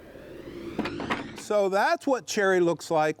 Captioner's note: wood rattling